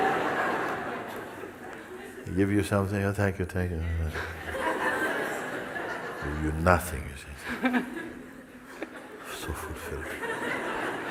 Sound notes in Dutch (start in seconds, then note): 0.0 gelach; 4.5 imiteert ontevredenheid